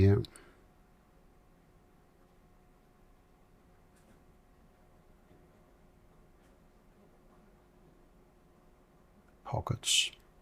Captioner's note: silence